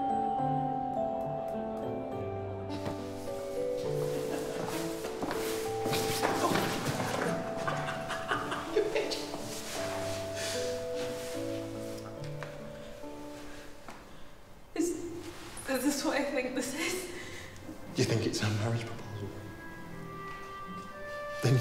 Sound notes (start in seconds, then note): 3.1 footsteps plodding; 3.9 both laughing; 4.5 body thudding; 7.7 laughing